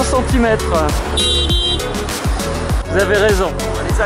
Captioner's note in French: Plusieurs coups de klaxon